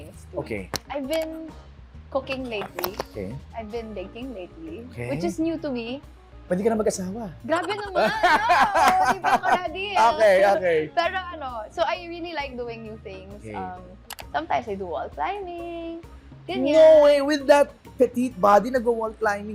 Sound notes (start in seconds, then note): 7.5 laughs